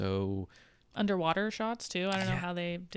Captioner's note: computer mouse clicking